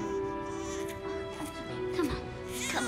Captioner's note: <i> baby crying</i>